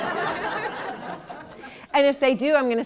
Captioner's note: laughter